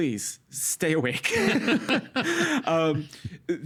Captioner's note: both laughing